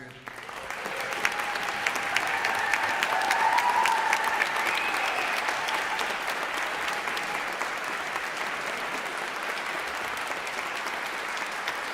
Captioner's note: applause